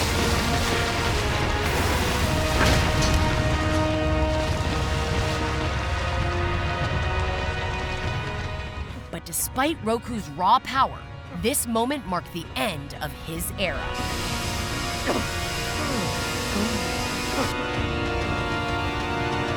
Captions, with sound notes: But despite Roku's raw power, this moment marked the end of his era. [coughing]